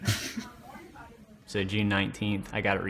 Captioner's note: laughing